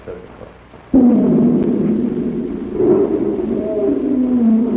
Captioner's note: lion growling